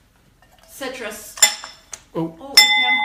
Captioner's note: ding